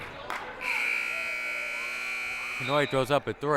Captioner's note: buzzer blaring